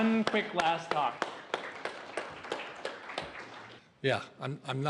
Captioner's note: applause